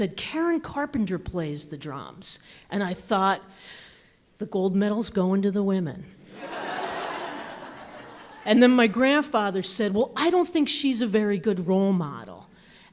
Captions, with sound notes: "Karen Carpenter plays the drums." And I thought, the gold medal's going to the women. (audience laughs) And then my grandfather said, "Well, I don't think she's a very good role model."